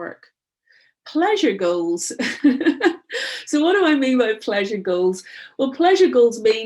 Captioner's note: chuckling